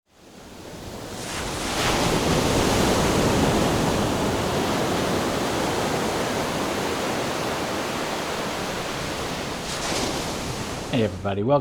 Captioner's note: sound of Waves